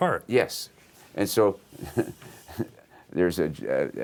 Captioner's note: chuckles